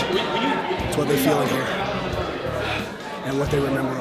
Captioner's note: breathing deeply